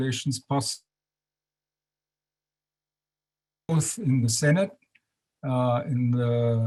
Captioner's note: audio drops